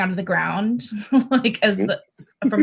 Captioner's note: laughs